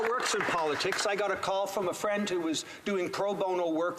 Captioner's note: some Applause